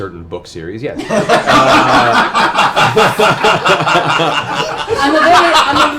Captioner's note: laughter